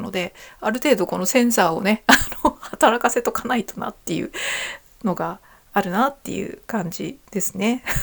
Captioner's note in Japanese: 笑い